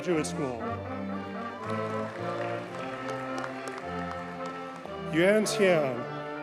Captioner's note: audience cheers and applauds